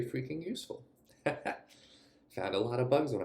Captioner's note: laughs